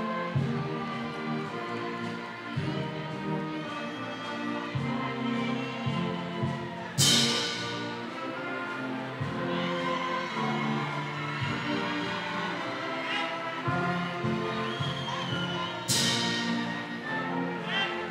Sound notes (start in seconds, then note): 9.6 audience cheering continues